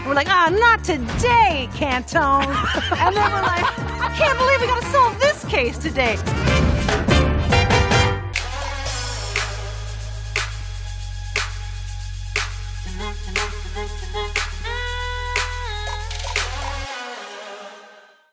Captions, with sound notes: And we're like, aw, not today, Cantone. [laughs] And then we're like, I can't believe we got to solve this case today. [upbeat music]